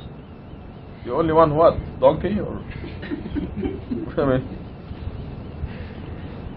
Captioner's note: Gülüşmeler